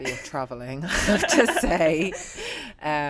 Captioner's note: laughs